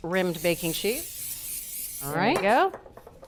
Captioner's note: spray spritzing